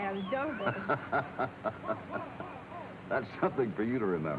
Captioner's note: Hoppy laughs; laughs